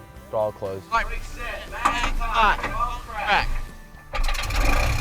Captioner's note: speaking to radio dispatch; engine turning